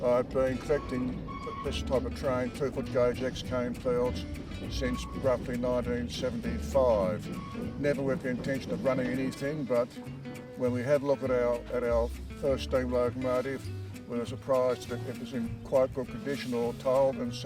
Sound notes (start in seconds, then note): 0.4 locomotive whistle tooting